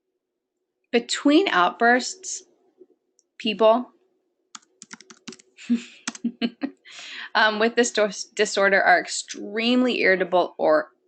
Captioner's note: laughter